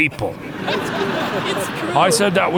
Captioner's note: crowd laughing